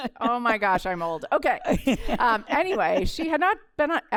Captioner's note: laughter